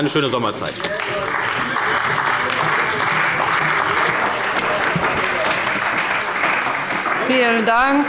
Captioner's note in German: Beifall bei der CDU und dem BÜNDNIS 90/DIE GRÜNEN